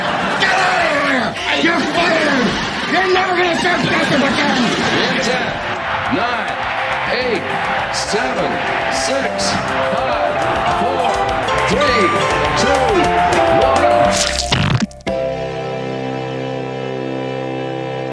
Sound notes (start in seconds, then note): 0.1 audience laughing; 14.1 slime splattering; 15.5 slow music